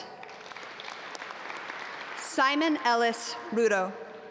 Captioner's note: audience applaud